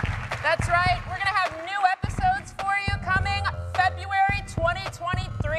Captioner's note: applause